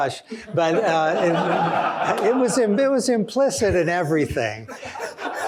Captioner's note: laughter; laughter